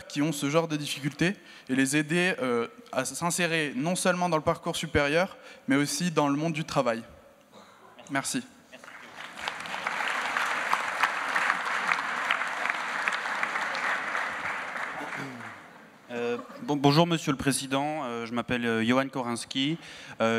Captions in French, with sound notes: qui ont ce genre de difficultés et les aider à s'insérer non seulement dans le parcours supérieur, mais aussi dans le monde du travail ? Merci. (Applaudissements) -Bonjour, monsieur le président. Je m'appelle Yohan Koranski.